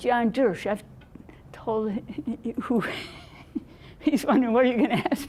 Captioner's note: laughing